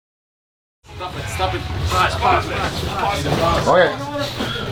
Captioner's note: teammates murmur